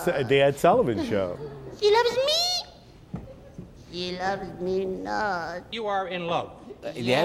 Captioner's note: excited